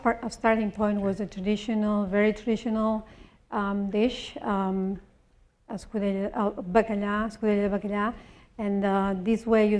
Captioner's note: spanish